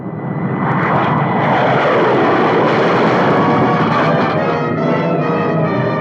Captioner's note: engines roaring; dramatic music